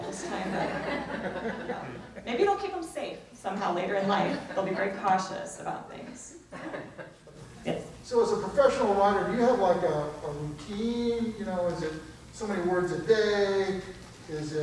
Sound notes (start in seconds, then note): 0.0 people laugh; 6.4 people chuckle